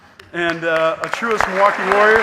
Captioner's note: audience applauding